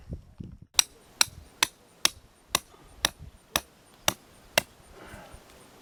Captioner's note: hammering